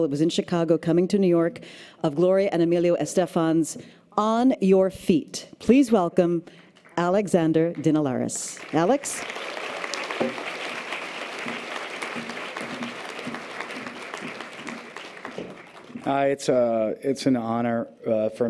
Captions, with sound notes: it was in Chicago, coming to New York- of Gloria and Emilio Estefan's On Your Feet. Please welcome Alexander Dinelaris. Alex? (audience applause) - It's an honor.